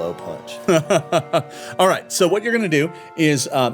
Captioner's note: laughing